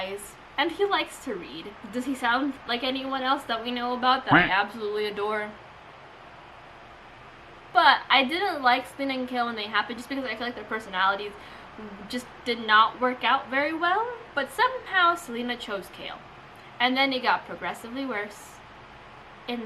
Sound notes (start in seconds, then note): 4.3 quack noise